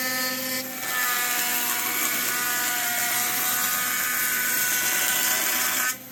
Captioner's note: buzzing